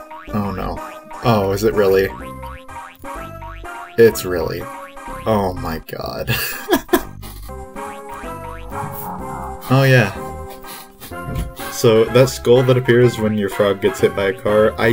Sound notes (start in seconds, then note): 6.5 laughs